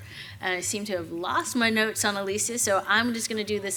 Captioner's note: none